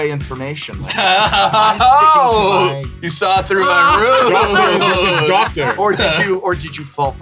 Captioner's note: laughs